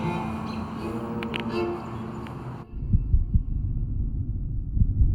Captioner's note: neck cracks